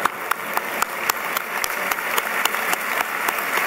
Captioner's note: applause